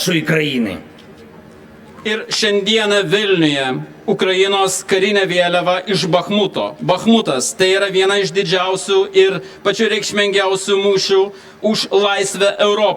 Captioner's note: Lithuanian